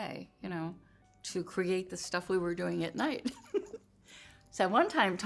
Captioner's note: laugh